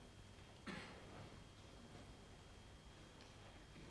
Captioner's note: man coughs